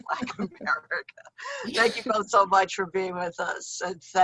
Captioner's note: laughs